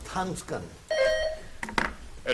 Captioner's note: buzzer dings